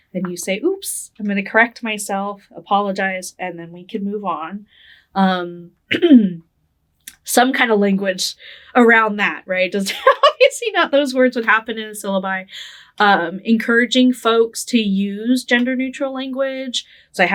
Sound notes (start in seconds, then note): 9.9 laughing